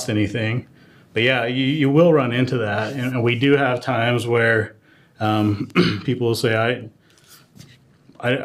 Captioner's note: cough